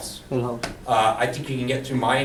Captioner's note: voiceover